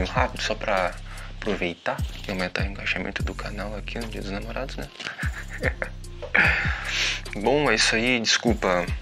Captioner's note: laughs